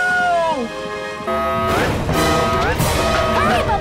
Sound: alarm sounding

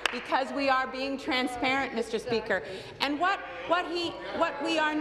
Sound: applause

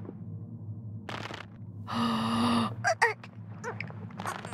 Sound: gasps

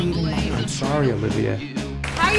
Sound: applause

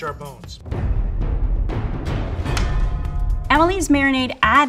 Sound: booming noises

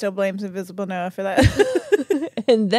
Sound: laugh

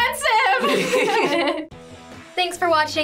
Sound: both laugh

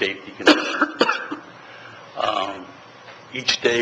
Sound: member coughing

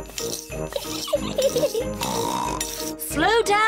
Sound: giggles and snorts

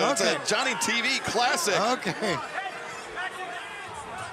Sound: laughs

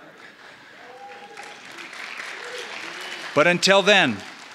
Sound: applause

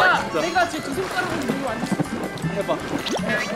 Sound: water splash

